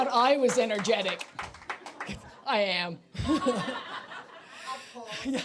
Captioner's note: applause